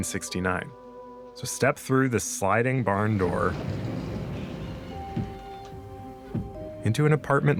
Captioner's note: door slides